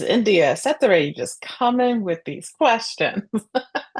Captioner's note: laughs